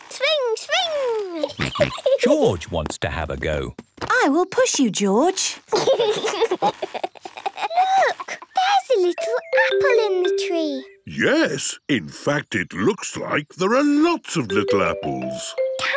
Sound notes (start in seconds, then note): 1.4 giggling and snorting; 5.7 George giggling